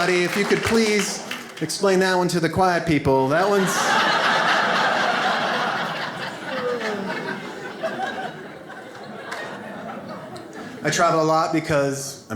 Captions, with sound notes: If you could please explain that one to the quiet people, that one's-- (audience laughs) I travel a lot because